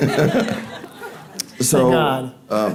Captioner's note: audience laughing